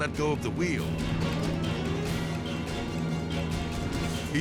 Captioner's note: edgy dramatic music; plane buzzing